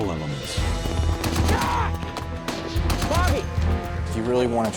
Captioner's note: automatic gunfire